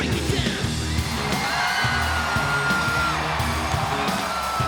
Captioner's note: audience cheering